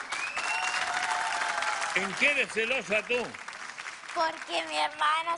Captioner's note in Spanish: aplausos